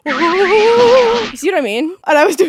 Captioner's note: shaking voice